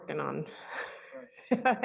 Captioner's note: laughs